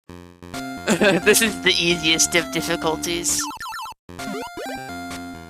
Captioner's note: laughs